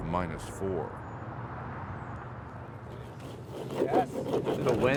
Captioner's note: traffic whooshing